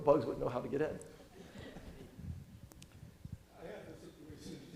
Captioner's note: audience chuckling